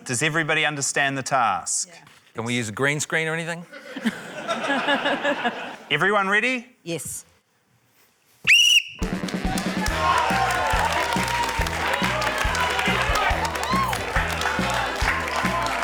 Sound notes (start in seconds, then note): 3.7 laughter; 8.4 whistle trills; 9.1 cheering, applause